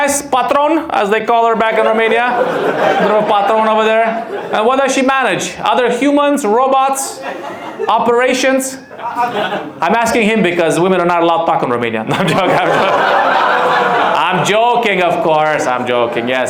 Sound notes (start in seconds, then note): 12.0 audience laughs